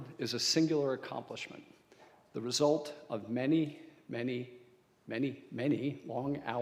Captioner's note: none